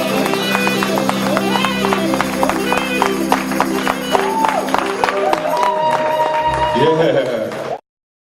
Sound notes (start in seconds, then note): 3.0 applause